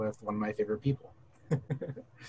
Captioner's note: laughter